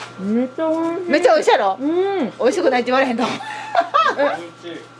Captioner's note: laughs